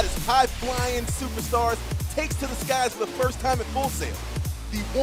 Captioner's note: none